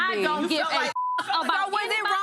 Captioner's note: beep